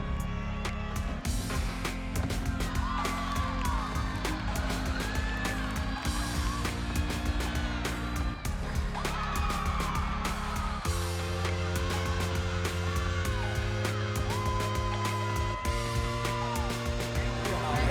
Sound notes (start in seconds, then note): 3.3 team cheering